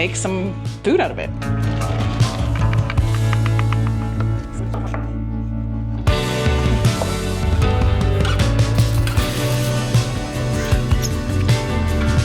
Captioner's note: ambient kitchen sounds